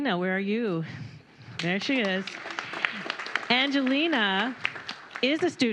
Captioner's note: applause